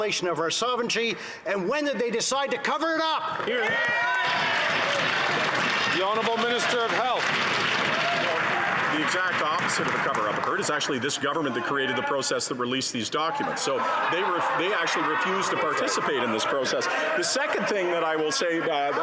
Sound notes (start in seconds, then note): 9.2 some Applause